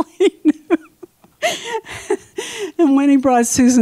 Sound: laughs

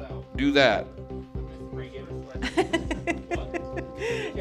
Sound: laughing

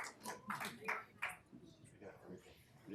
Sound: applause

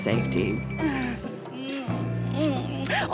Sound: soft chuckle

